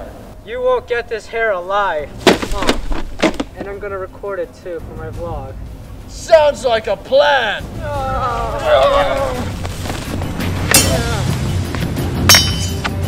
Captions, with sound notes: You won't get this hare alive! and I'm going to record it too for my vlog Sounds like a plan! *strange battle cries*